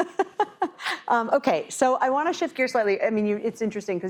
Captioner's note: laugh